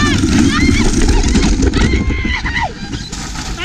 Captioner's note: scream